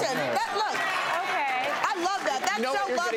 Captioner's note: audience cheering and clapping